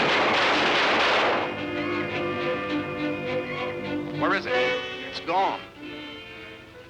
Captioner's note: gunshots